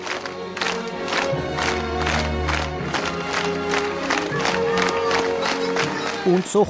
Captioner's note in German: Applaus